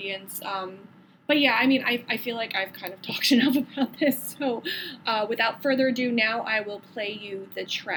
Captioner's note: laughing